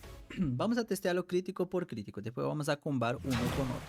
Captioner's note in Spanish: carraspeo